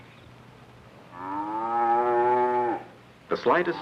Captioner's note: cow mooing